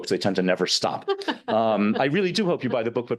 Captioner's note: laughing